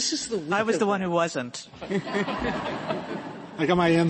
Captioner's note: laughter